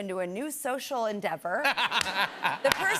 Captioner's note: laughter